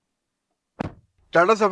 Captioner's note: door Thud